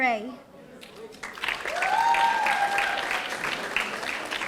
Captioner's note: audience applauding